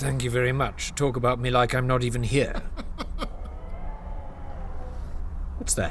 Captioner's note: strange distant animal sounds